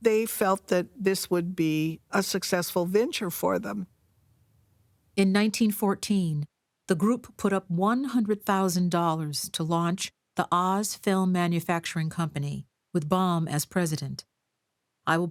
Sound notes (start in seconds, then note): none